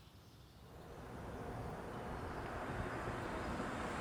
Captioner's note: truck whirring